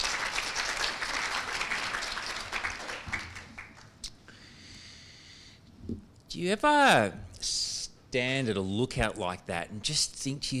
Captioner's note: applause